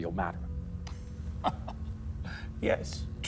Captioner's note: Marcus laughing